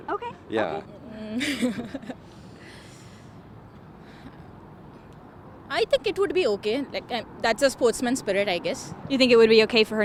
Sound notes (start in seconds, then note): 1.2 women laughing